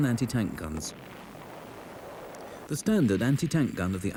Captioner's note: shell booms